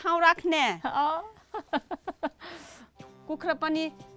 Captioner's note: laughs